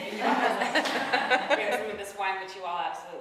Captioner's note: audience laughing